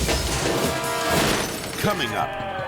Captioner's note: glass shattering